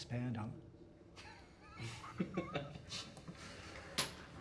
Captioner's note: chuckling